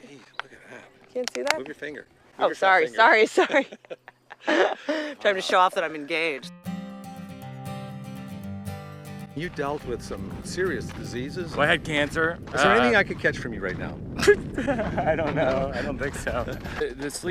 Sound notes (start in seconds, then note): 3.3 both laughing; 6.3 guitar music; 14.7 laughing